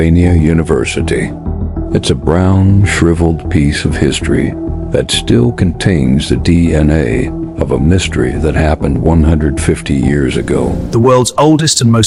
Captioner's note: sarcastic Commentary